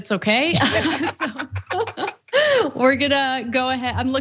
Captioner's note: laugh